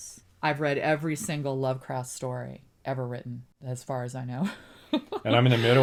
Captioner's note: laughs